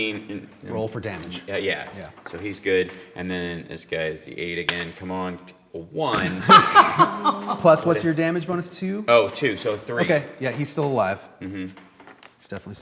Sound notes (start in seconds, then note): 6.1 laughing